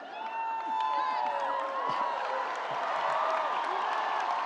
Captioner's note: audience cheers